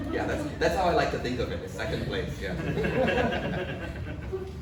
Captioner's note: audience laughs